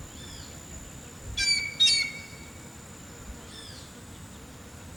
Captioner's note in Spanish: pájaro cantando